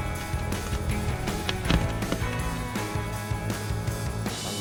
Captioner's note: blade scrapes on glass, then fades away